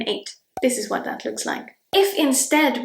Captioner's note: bubble pops